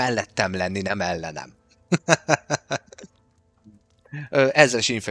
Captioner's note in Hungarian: nevetés